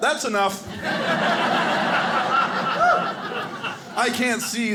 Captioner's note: audience laughing